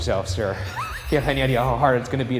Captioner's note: laughs